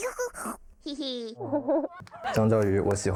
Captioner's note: chuckles